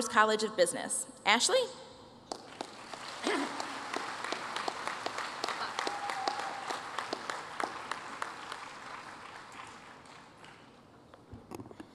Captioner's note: applause